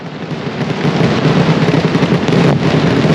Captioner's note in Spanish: sonido de petardos